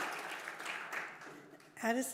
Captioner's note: applause